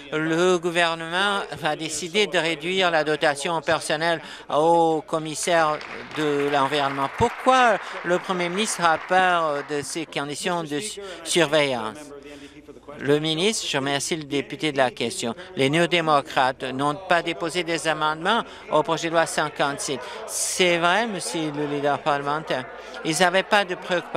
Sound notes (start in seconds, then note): 8.6 applause